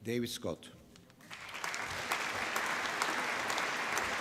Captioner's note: applause